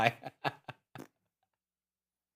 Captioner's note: laughing